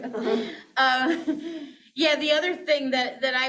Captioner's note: both chuckling